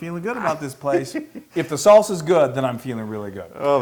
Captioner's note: laugh